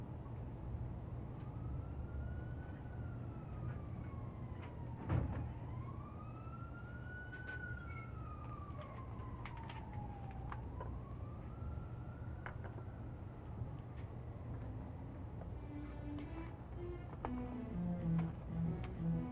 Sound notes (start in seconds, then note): 0.7 police sirens; 15.6 trumpet music